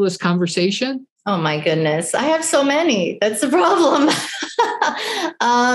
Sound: laughs

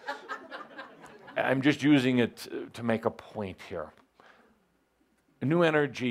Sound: laughter

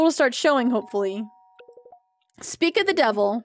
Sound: doorbell Rings

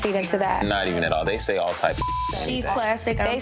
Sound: beep

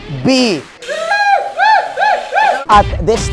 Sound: monkey noises

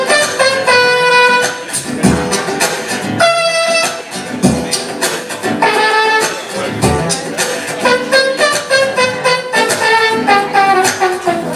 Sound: vocal percussion; vocal trombone

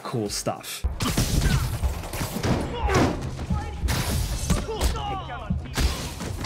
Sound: blows thudding; people grunting

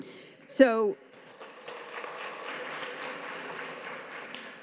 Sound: audience claps

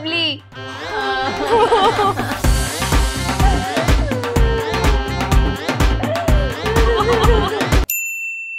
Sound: crying

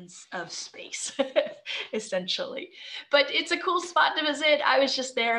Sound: chuckling

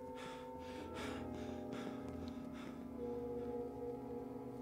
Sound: panting; brooding instrumental music

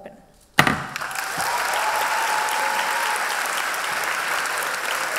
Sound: cheers and applause

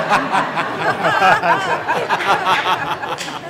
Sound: laughter

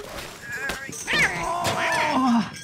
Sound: rustling; cat meowing; straining

